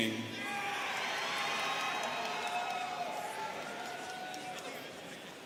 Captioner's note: students cheering